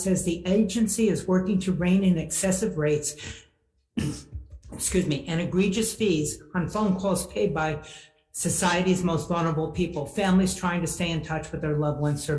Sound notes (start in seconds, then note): 4.0 coughs